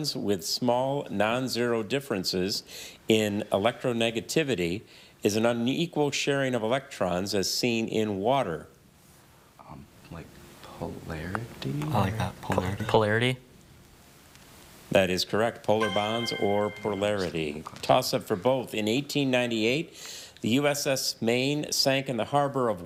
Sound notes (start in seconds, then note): 15.8 chime resonating